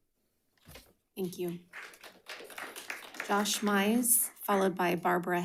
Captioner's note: audience clapping